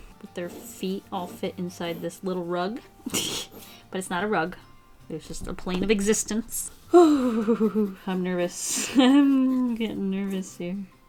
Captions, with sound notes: Their feet all fit inside this little rug. [Chuckles] It's not a rug. It's just a plane of existence. [Breathes out nervously] I'm nervous. I'm getting nervous here.